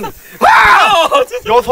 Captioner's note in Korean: 비명